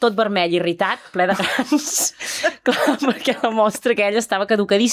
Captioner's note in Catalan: rialles